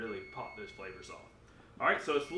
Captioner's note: oven beeping